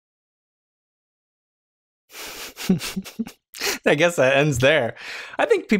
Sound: chuckles

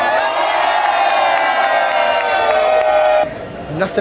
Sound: crowd clapping and cheering

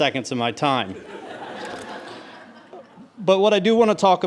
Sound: audience laughs

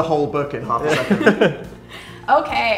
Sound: laughter

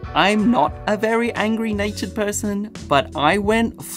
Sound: none

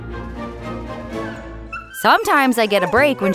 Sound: dog whining

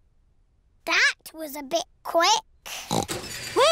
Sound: oinks

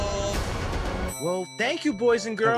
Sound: bell dings

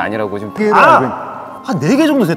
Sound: ahh!

